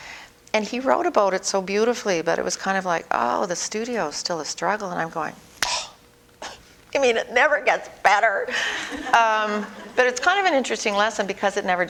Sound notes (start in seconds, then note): 5.8 exasperated sigh; 8.6 audience: Laughter